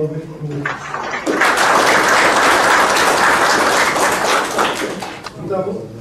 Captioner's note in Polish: oklaski